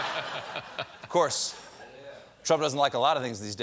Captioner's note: laughter